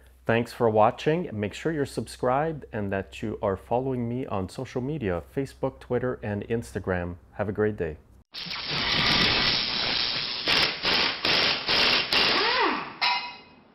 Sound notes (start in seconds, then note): 8.4 buzzing sounds